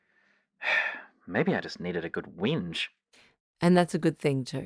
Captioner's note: sigh